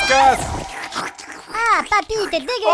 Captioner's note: big screams + Disgusting tentacles noises; gross mouth made sound effects